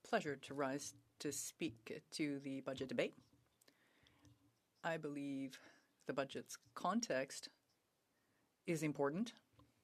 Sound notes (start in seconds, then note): 2.3 speaking French